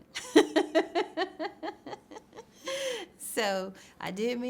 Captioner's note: laughs